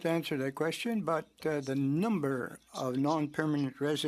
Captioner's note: speaking French